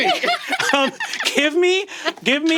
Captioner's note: laughing